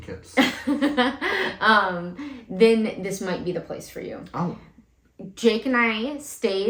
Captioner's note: laugh